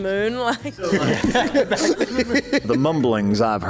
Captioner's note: laughing